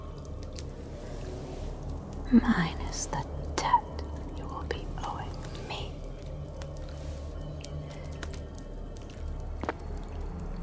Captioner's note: whispers